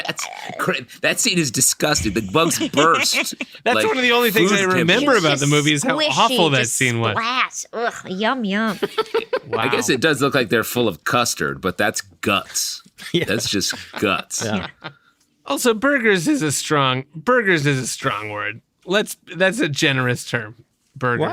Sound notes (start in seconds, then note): 7.6 happily; 8.6 laughter